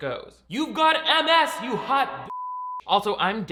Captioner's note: beep